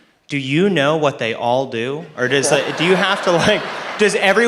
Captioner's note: laughter